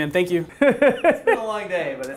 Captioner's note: laughter